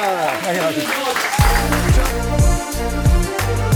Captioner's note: applause